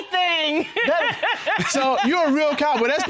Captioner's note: laughing